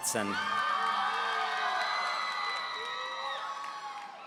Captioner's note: audience cheering